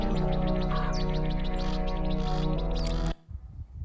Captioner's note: birds cawing